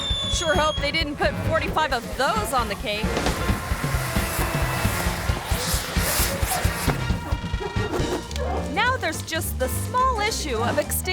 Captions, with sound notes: Sure hope they didn't put 45 of those on the cake. (firecracker hissing) Now there's just the small issue of extinguishing the table.